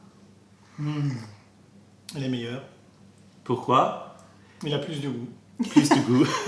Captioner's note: french; french